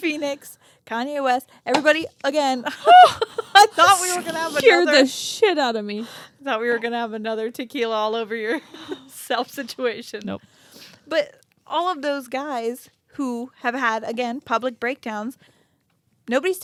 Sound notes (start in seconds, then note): 4.5 both laugh